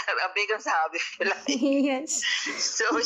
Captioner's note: giggles